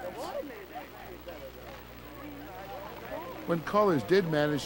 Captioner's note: mixed conversations and static